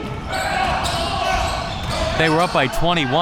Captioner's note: audience chattering and yelling